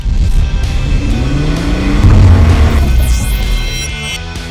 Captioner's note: engine revving